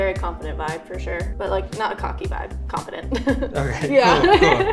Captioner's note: laughs